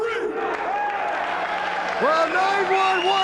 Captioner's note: spectators applauding